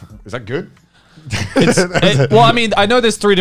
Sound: laughing

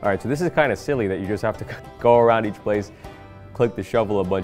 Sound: laughs

